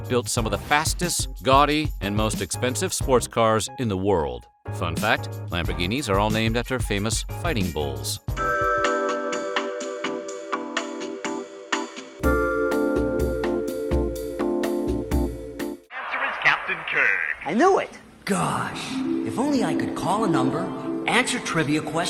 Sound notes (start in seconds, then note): 19.0 chimes